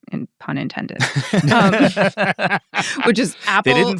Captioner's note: people laughing